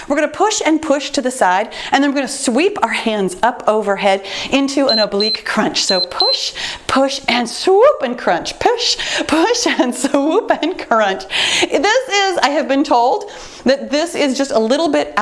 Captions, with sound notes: We're gonna push and push to the side and we're gonna sweep our hands up overhead into an oblique crunch. (timer beeps) So push, push, and swoop and crunch, push, push, and swoop and crunch I have been told that this is just a little bit